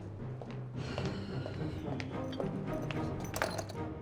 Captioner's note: Casey sighs